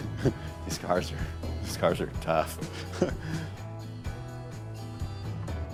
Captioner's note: chuckle; chuckle